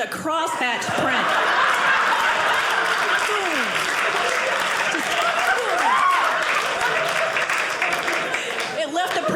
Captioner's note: audience applauding